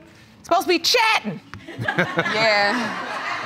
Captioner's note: audience laughs